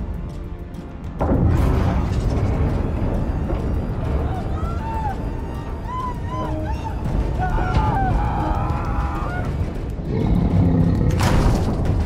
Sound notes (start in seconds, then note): 4.2 screaming